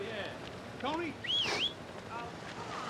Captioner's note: whistles